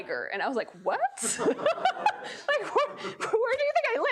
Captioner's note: laughing